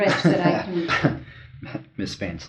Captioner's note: Sid laughs